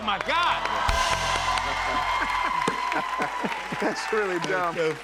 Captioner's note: cheers and applause